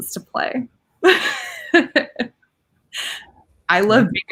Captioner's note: laughing